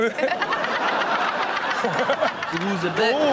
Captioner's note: everyone laughs